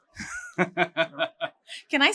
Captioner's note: laughing